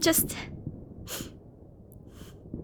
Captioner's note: sniffles